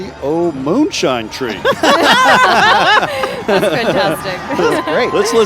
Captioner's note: laughing